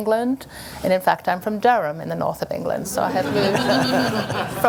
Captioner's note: laughter